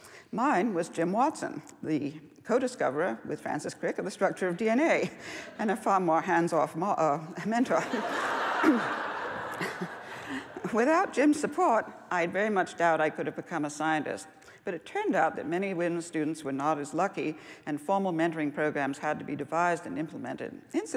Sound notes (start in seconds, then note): 7.8 laughs